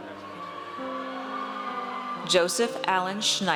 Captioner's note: audience cheers